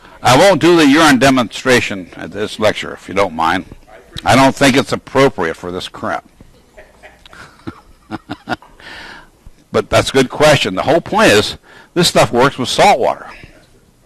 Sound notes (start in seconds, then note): 6.5 laugh